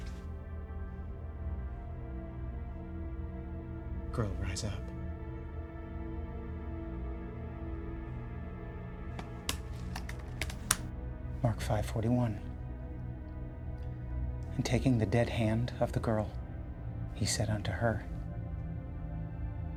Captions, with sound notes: (suspenseful music) Girl, rise up. (keyboard keys clacking) Mark 5:41. "And taking the dead hand of the girl, he said unto her,